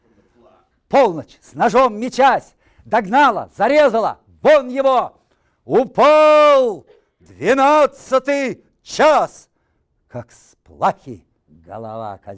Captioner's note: reciting poem in Russian